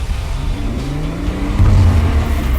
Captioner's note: engine revving